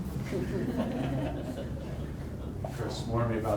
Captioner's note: audience laughing